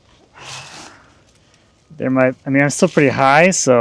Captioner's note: sighs